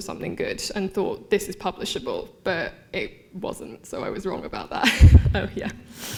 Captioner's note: laughing